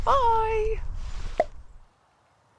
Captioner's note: pop